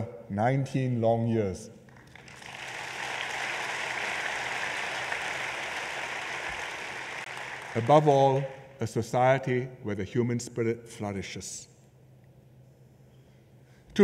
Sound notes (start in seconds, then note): 1.9 applause